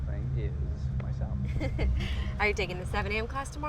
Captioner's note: laughs